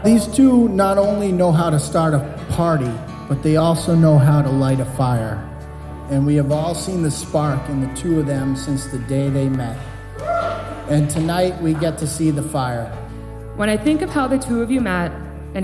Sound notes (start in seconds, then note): 10.5 guest whoops